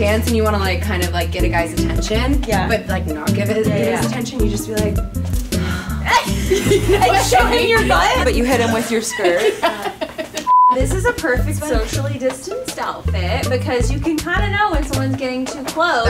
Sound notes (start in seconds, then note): 5.5 gasps; 9.6 laughs; 10.4 beeps